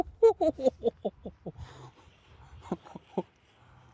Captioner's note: giggles